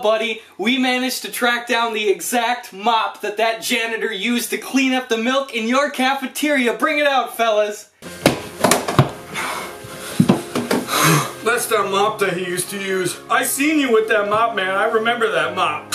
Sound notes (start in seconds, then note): 10.8 exhales laboriously